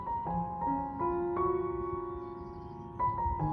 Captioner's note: bird singing in the background to snow-covered pink and indigo hyacinth blooms